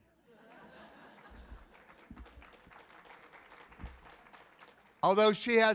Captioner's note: audience laughing and applauding